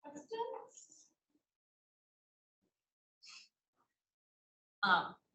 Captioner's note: speaking faintly off mic